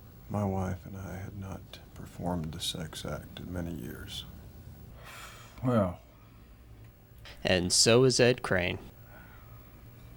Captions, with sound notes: "My wife and I had not performed the sex act in many years." [Exhale], "Well...." ...and so is Ed Crane.